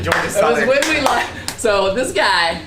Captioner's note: clapping